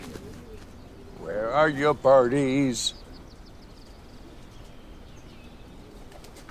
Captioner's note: birds chirping